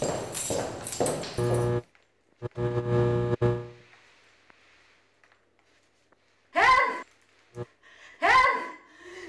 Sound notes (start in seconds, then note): 2.4 light buzzes